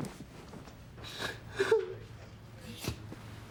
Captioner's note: sobs